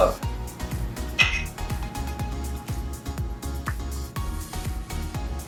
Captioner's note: cups clinking